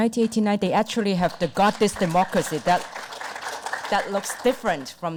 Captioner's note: audience applause